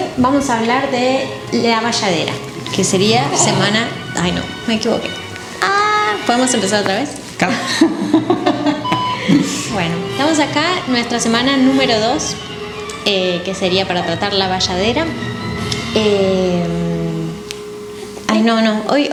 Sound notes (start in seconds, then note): 7.5 laughs